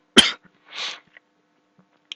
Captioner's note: coughing; sniffing